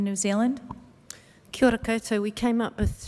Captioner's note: speaking maori